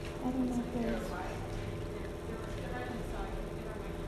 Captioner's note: woman speaks faintly